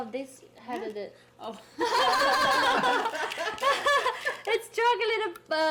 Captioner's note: people laughing